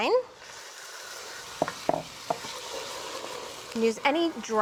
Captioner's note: sizzling